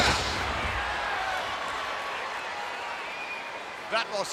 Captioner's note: body banging